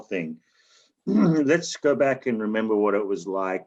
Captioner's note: clears throat